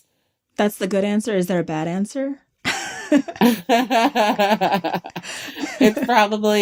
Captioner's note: laughter